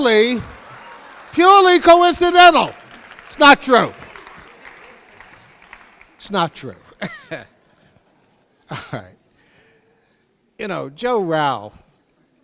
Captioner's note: crowd laughs